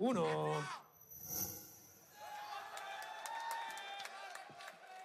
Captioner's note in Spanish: Aplausos